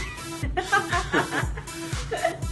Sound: laughs

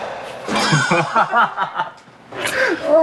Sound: muted laugh

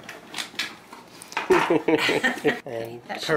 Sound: laughs

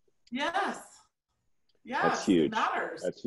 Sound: none

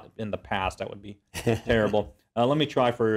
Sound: laugh

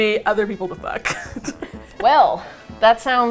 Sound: laughs; both laugh

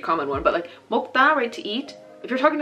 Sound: speaking Korean

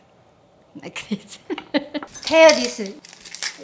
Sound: laughs

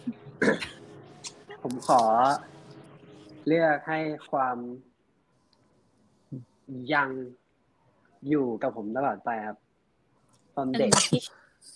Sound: answers in Thai

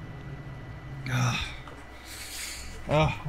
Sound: sighs

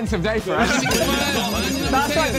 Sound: everyone laughing; phone ringing

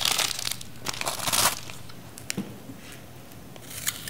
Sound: loud crunching

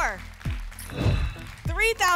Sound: whoosh

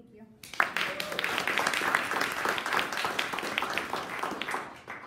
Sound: audience applauding

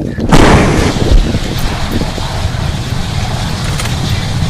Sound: fire explodes

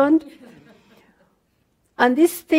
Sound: audience laughter

